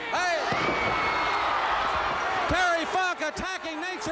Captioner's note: crowd chatter